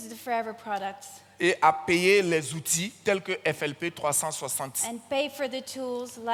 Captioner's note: continues in French